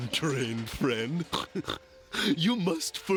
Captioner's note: snorts